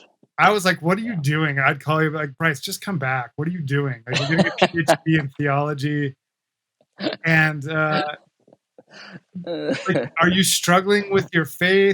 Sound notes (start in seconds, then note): 4.7 laughs